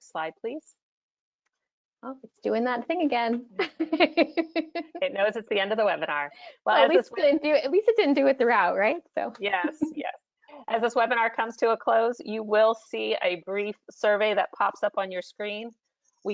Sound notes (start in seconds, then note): 3.6 laughs; 6.8 faintly speaking